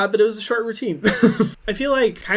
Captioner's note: laughing